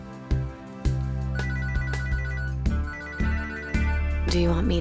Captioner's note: phone ringing